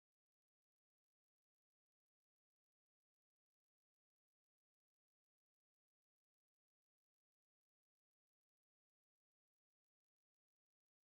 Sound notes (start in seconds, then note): none